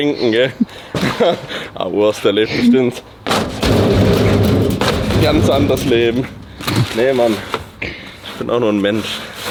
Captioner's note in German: gelächter